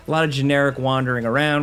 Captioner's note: none